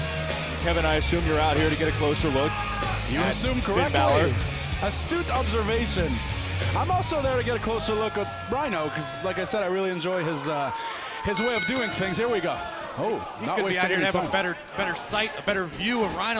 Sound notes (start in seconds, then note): 12.8 bell ringing